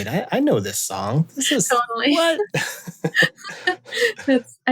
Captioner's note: laughter